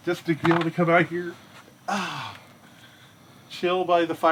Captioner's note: sighs